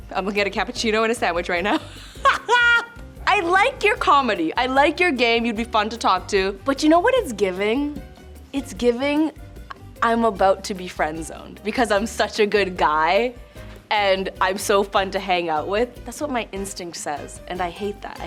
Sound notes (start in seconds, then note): 2.0 laughs